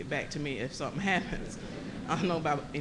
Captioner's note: laughter